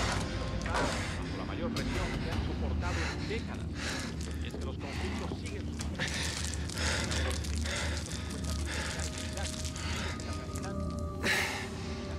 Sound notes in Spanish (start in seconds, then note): 4.3 jadeos de ansiedad